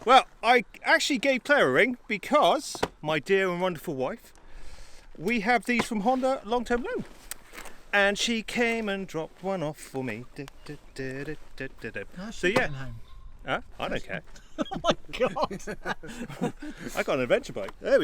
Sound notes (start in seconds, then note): 14.3 laughing